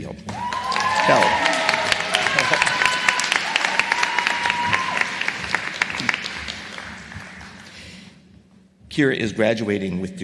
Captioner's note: applause